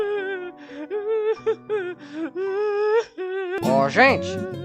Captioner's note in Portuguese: Choradeira continua